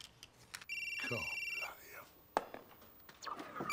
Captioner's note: phone ringing